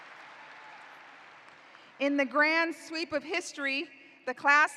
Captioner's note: applause